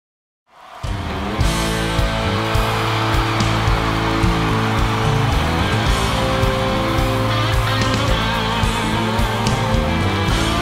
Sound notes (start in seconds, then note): 0.6 audience cheering; 2.0 upbeat music